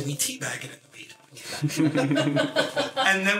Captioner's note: laughter